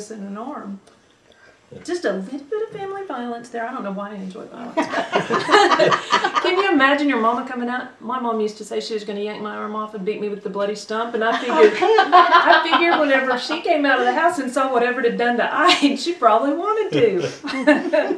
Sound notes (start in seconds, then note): 4.7 laughter; 16.9 laughter